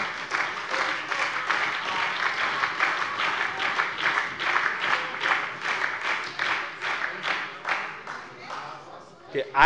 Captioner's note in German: Beifall bei dem BÜNDNIS 90/DIE GRÜNEN und der SPD